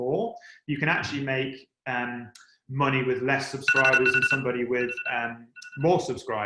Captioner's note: phone rings